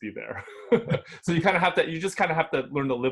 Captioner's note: laughs